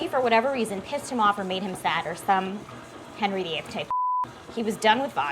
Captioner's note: beeps